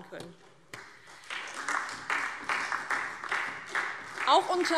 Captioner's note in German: Beifall DIE LINKE und SPD